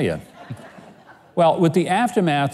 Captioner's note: audience laughs